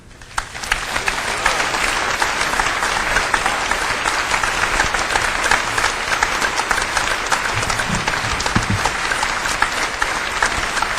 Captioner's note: applause